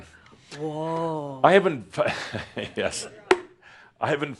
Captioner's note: chuckles